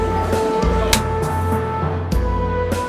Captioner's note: clapper clapping